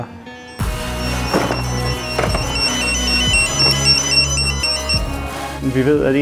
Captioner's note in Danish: Alarmen går